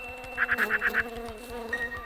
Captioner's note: rooster crowing; birds chirping; insects buzzing